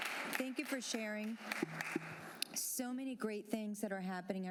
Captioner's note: applause